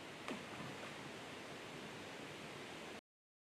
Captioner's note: faint splash into the water